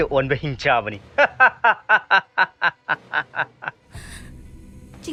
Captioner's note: laughing